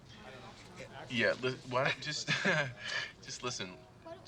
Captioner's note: laughs